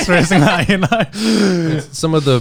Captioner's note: laughing